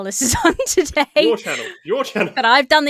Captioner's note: laughs